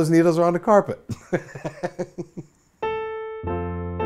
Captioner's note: laughs